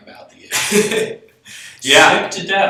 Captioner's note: laughs